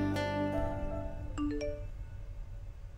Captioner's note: Cell phone beeps